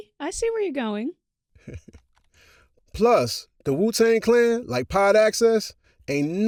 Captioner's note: chuckles